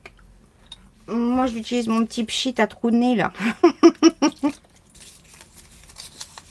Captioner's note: laughs